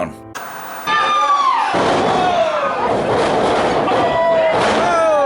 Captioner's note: crowd screaming